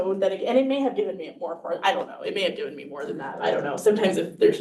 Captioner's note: none